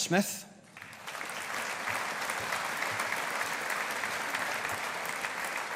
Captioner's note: audience applauding